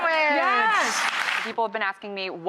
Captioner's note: crowd applauds